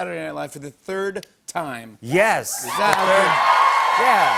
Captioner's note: cheers and applause